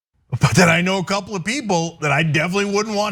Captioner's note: laugh